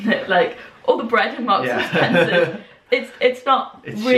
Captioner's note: laughing